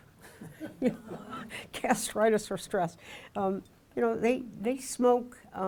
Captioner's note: audience chuckling